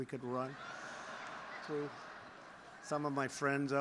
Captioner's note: laughter